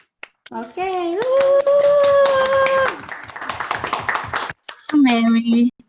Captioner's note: applause